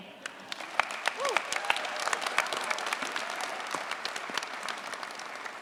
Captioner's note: cheers, applause